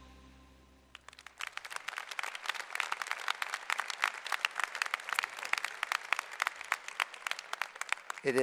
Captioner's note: applause